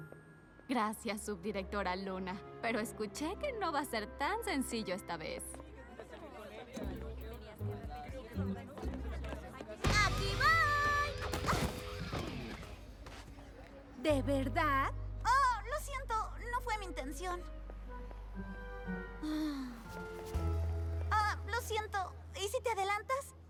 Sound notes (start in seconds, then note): 10.9 thud; 18.7 groan